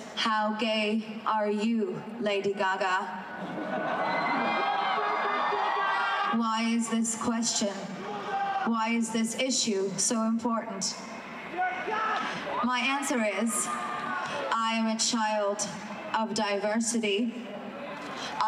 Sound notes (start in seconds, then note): 3.2 crowd cheering; 3.2 crowd laughing